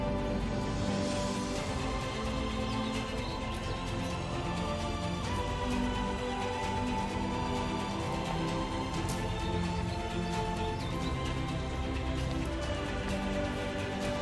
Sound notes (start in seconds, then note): none